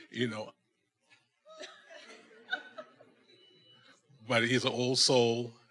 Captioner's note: attendees laughing